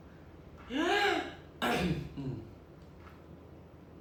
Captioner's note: clears throat